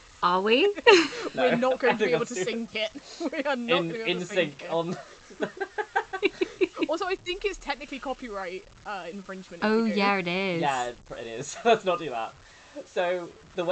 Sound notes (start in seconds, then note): 0.8 laughing